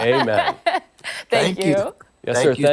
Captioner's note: laughter